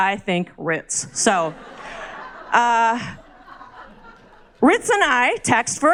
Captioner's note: crowd laughs